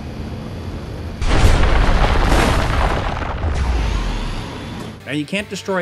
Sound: explosion rumbling

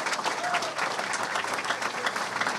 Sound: clapping

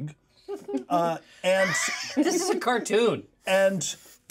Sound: laughs

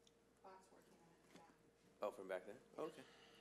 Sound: speaking faintly

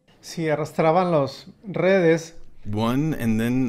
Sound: speaking Spanish

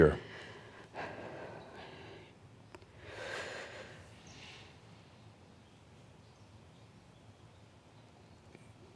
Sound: pause as takes another deep breath

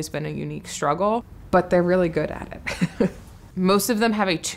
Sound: chuckles

